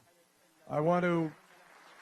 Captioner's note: applause